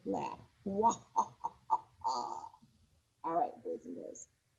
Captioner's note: laughs